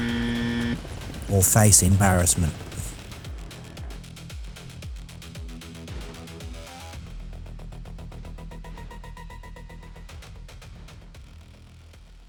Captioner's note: buzzer